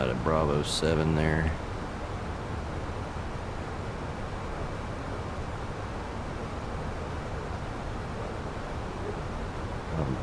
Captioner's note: radio chatter